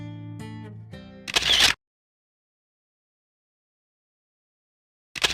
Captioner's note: camera shutter snapping